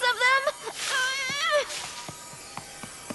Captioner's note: straining